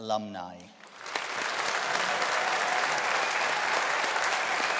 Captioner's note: audience applauding